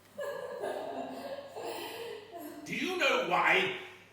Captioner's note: laughing